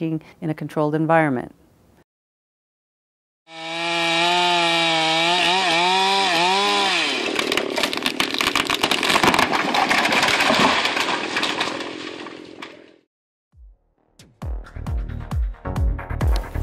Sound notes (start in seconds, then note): 3.4 chainsaw buzzing; 7.3 crackling